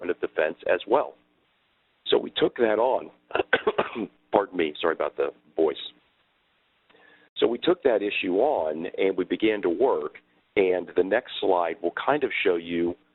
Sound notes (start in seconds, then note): 3.3 coughing